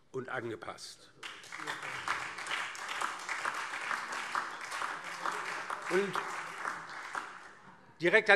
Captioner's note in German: Beifall DIE LINKE, SPD und Freie Demokraten